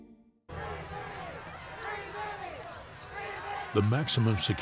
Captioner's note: crowd chanting